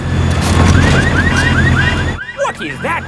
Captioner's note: car alarms blaring